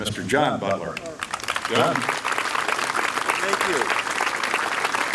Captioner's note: applause